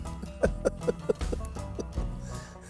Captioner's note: chuckles